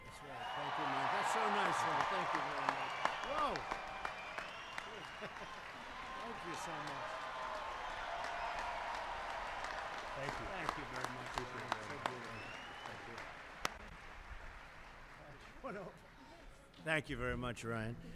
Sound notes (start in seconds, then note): 11.0 laughs; 13.3 applause